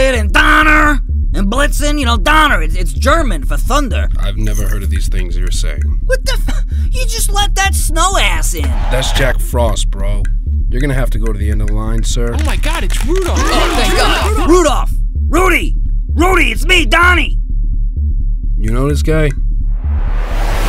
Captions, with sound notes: DONNER! And Blitzen. You know, Donner! It's German for thunder. I've never heard of these things you're saying. What the fuh!? You just let that snow ass in! That's Jack Frost, bro. You're going to have to go to the end of the line, sir. Oh my god, it's Rudolph! (crowd erupts) Rudolph! Rudy! Rudy! It's me Donny! You know this guy?